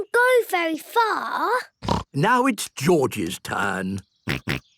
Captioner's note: snort; snort, laughing